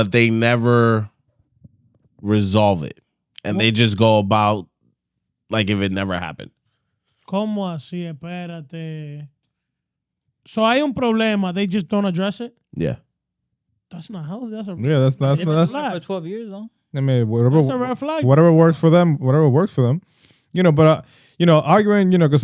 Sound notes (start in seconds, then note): 9.1 speaking In Foreign Language